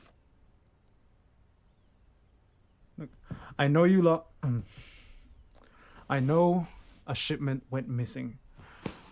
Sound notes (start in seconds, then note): 3.2 catches his breath